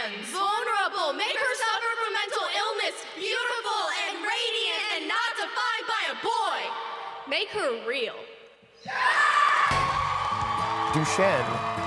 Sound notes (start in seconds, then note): 8.8 crowd roars